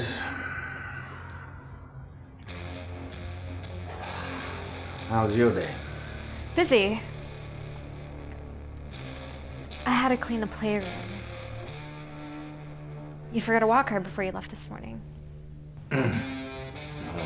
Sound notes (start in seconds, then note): 7.1 ominous guitar; 15.8 ominous guitar; 15.8 cough